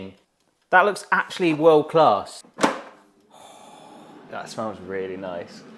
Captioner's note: gasps